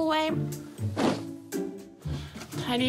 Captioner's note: thud!